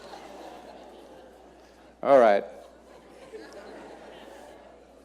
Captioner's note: audience laughing